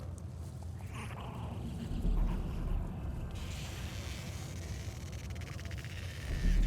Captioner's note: various creature sounds